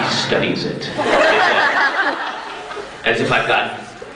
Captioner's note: crowd laughs